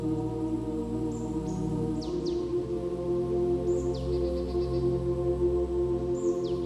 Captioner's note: peaceful music; birds chirp